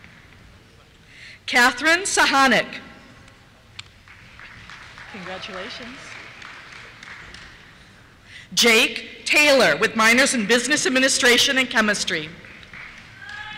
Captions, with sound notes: Catherine Suchanek. (applause) Congratulations. Jake Taylor, with minors in Business Administration and Chemistry. (cheers)